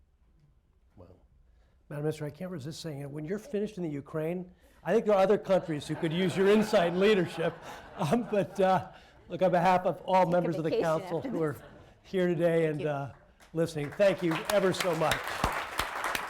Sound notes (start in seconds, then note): 8.7 laughter; 12.8 applause